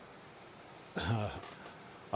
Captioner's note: cough